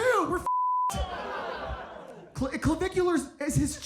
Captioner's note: beep